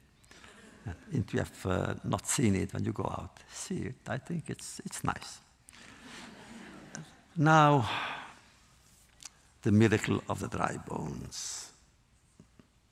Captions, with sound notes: If you have not seen it, when you go out, see it. I think it’s nice. (laughter) Now, the miracle of the dry bones.